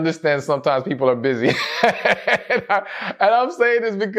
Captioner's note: laughs